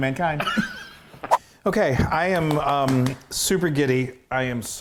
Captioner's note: laugh